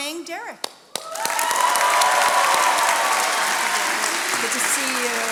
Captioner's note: attendees cheering and applauding